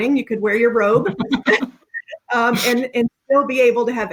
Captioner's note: laughing